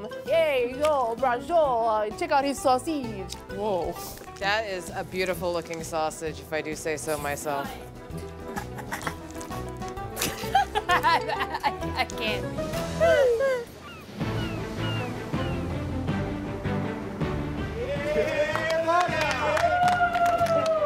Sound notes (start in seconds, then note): 10.1 laughs; 17.8 cheering